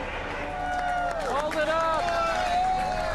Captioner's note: crowd cheering